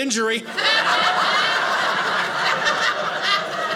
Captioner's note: audience laughing